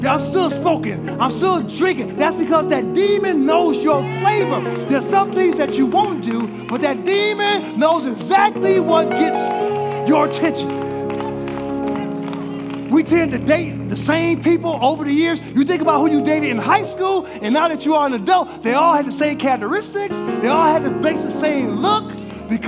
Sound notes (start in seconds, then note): 11.0 congregation applauding